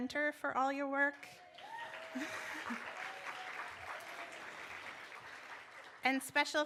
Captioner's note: applause